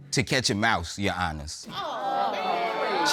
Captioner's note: audience exclaims